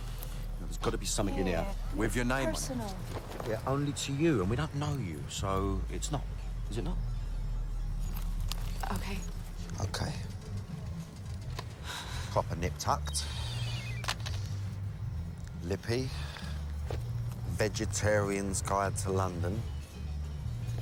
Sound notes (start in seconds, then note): 11.1 sighs; 14.0 cell phone beeping